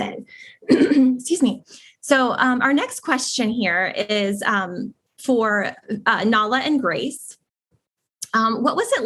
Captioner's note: cough